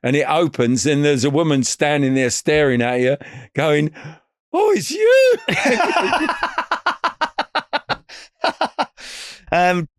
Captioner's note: laughing